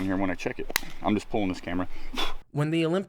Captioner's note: exhales